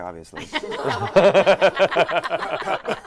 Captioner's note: laughter